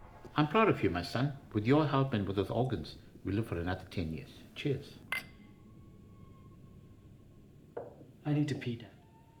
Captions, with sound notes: I'm proud of you, my son. With your help and with those organs, we live for another 10 years. Cheers. (glasses clinking) (tense music) - I need to pee, dad.